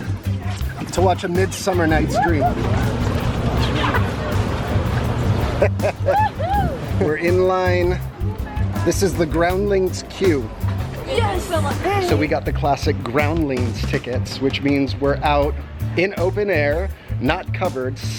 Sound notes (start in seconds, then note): 5.6 laughs; 6.0 cheers